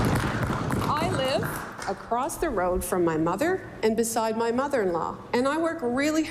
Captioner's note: applause